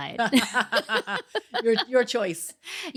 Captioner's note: laughs